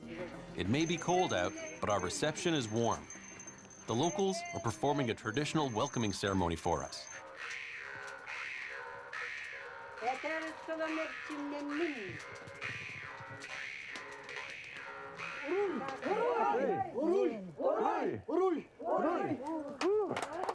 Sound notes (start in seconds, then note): 9.2 speaks Russian; 15.4 all chanting in Russian